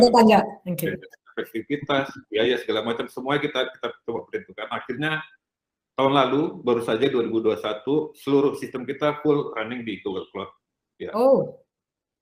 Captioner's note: non-english speech; non-english speech